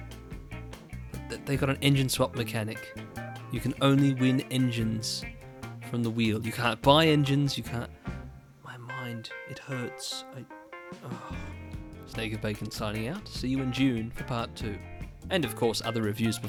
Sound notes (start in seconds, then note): 11.0 exhale